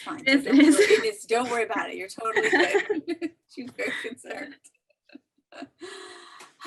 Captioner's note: laughs